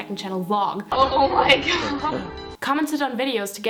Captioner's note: laughing